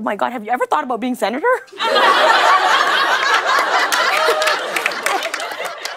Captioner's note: laughter